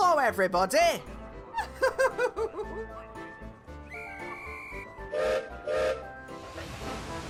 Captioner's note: annie chuckles and guard blows whistle; gilbert whistles